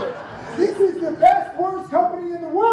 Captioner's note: laughter from audience